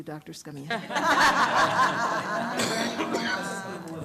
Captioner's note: laughing